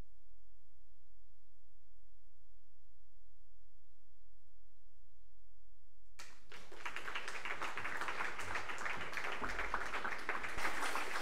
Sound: applause

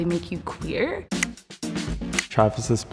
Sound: tally clicks

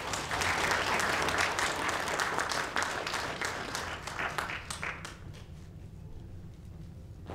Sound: applause

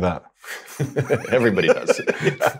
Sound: both laugh

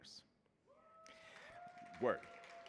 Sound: audience cheering and applauding

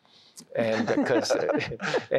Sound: laughter

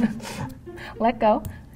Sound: laughing

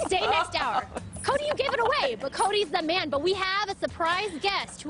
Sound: laughter

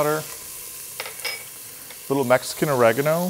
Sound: pan sizzling

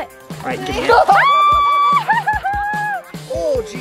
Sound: laughs; screams

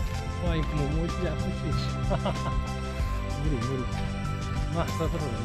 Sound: laughs

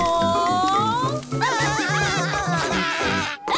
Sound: laughs

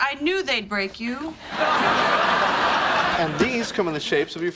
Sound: audience laughing

